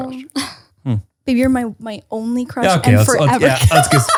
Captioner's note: laughs